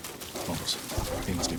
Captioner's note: thunder rumbling